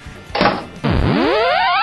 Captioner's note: loud hammer strike